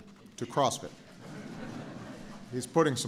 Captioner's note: laughter